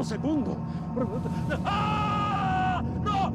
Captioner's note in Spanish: grita en panico